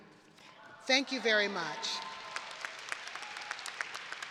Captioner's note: audience applauding; audience cheering